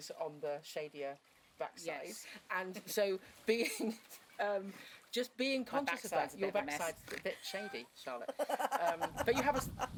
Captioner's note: laughs